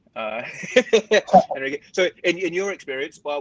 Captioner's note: laughing